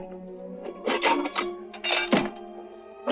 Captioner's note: metal clanging